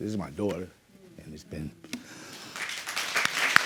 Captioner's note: applause